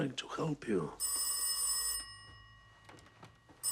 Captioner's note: phone rings